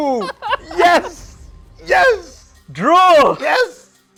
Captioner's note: laughing